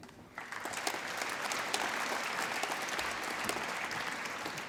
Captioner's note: applause